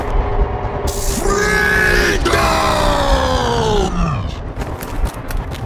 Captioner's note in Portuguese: Distorcido